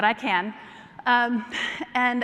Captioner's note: laughter